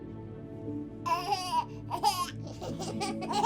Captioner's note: baby noises; babies laughing